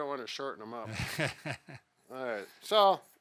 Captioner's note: laughs